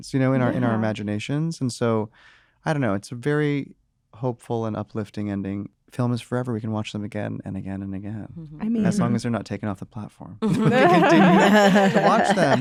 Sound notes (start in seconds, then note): 10.4 laughter